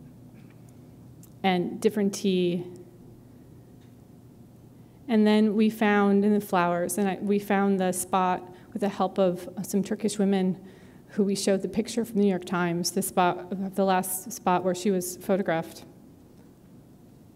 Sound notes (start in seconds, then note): none